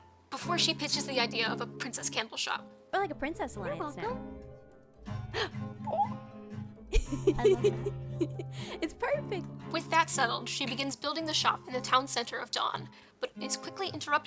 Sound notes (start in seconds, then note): 6.8 giggling